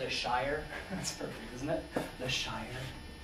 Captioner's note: student's chuckle